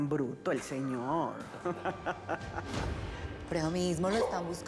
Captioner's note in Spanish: risas